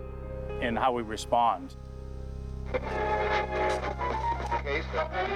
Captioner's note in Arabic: طقطقة ثابتة في الراديو